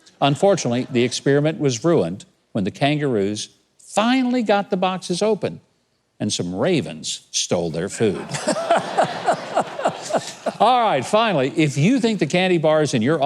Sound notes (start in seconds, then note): 0.6 audience laughs; 8.0 everyone laughing